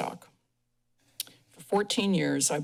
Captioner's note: pause